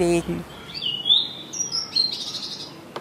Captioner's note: birds chirping